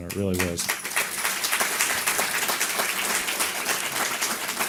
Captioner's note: audience clapping